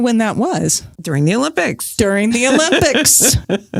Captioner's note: laughs